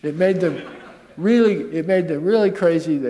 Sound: chuckle

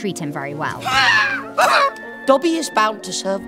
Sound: Dobby screams

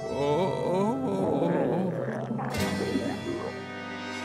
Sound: laughing

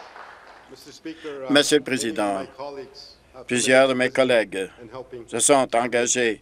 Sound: applause

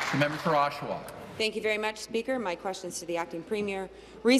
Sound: applause

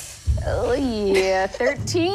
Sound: groans

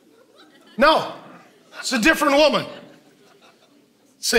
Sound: congregation laughing

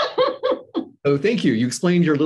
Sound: laughs

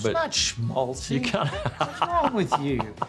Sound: laughing kiddingly

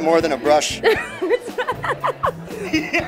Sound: laughs

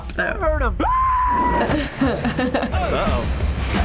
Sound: Robotnik screams; chuckles

